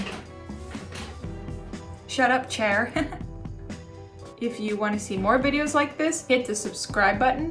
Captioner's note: chair squeaking